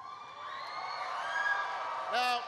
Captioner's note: applause